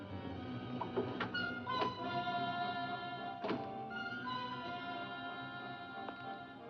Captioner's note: door opens and closes